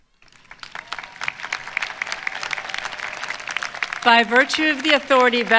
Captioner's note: applause